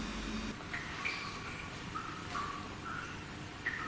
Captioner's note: water dripping